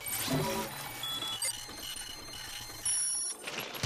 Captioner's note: beeps accelerating